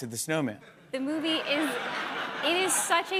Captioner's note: laughter